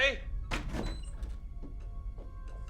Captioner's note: door open close